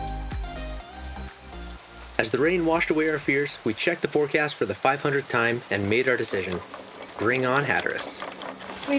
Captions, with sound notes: (rain pouring quietly) As the rain washed away our fears, we checked the forecast for the 500th time and made our decision. Bring on Hatteras.